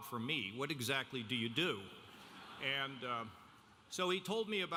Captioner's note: audience laughing